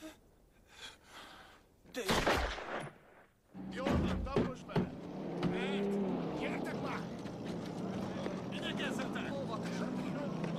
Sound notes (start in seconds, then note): 2.0 gunshots